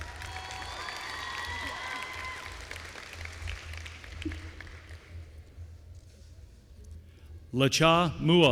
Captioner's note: applause